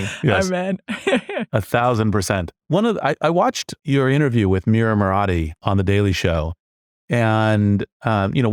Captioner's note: laugh